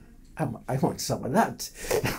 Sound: laughs

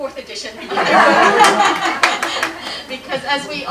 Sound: laughter

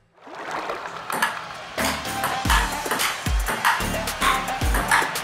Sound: ball tapping

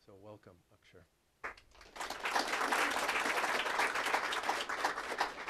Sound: applause

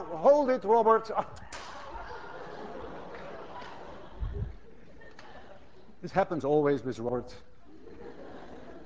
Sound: class laughs; laughter

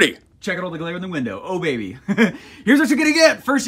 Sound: laughs

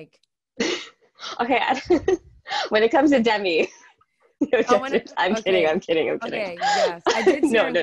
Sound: laughing

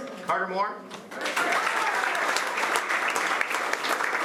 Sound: applause

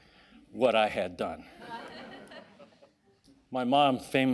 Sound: audience laughing

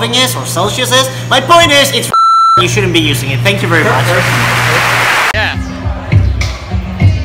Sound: fake applause

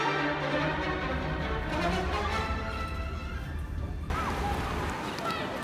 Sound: train rumbling; child yelling

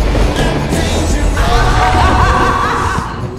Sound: laughter

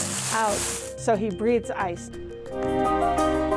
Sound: bright whimsical music; material crinkling

